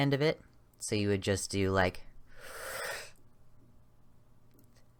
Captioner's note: sharp breath in, hold for a count of 2, slowly breathe out